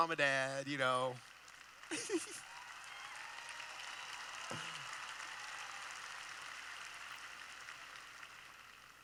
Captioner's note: applause